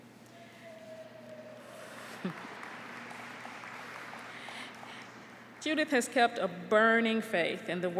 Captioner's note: applause